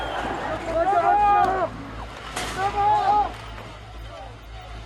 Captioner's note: chanting; shouting